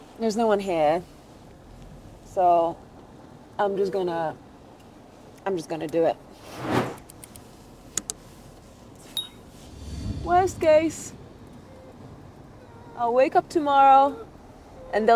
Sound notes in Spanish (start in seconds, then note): 6.4 efecto de sonido de transición; 6.6 efecto de sonido de clic